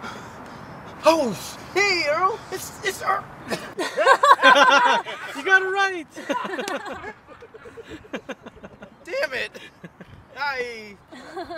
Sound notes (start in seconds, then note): 3.4 laughs